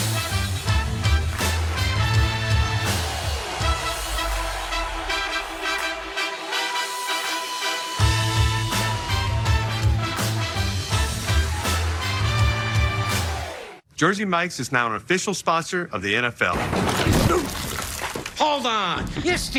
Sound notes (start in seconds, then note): 7.9 whistle blowing